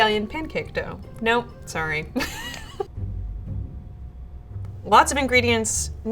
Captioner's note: laughing